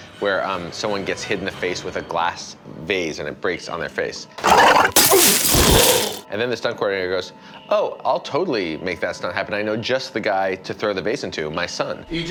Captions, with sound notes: where someone gets hit in the face with a glass base and it breaks on their face. (man groans) (glass shatters) And then the stunt coordinator goes, "Oh, I'll totally make that stunt happen. I know just the guy to throw the base into my son."